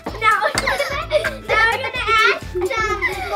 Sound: laughs

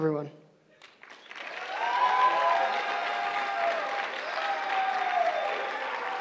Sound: cheering

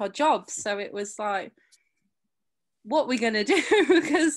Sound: chuckles

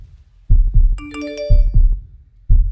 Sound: notification rings

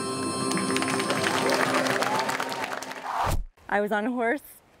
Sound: audience applauds

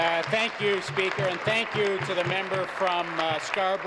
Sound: applause

